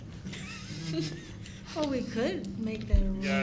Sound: laughter

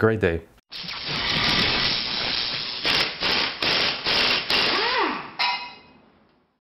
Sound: buzzing sounds; drilling sounds

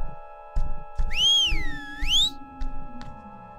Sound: whistle

